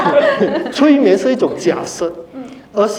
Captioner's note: laughter